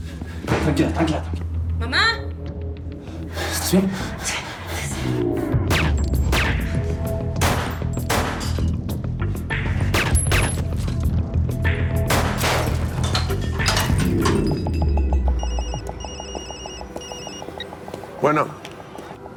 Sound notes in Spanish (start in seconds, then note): 5.2 Disparos; 15.3 Suena el celular